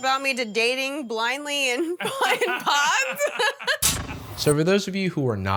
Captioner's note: laughter